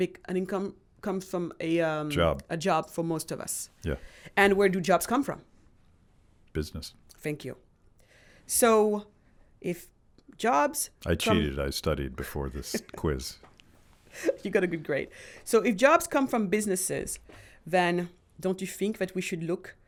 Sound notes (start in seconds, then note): 12.7 laughs